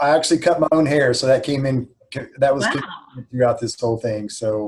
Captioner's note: faintly speaking